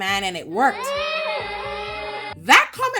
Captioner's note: children cheering